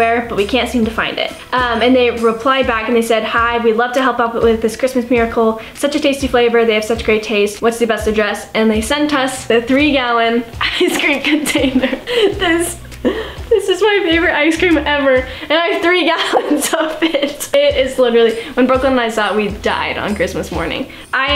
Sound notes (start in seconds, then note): 16.1 laughing